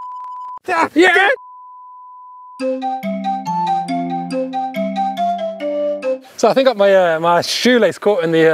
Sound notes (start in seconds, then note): 0.0 beep; 2.6 playful music